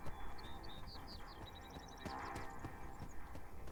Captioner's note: birds singing; soft suspenseful music